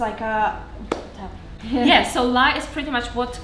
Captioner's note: hands clapping